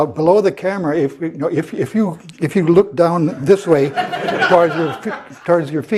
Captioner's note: laugh